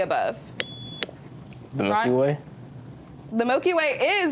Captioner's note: buzzer beeps